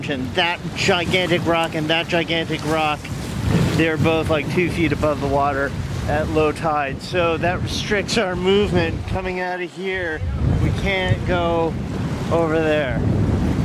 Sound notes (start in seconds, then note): none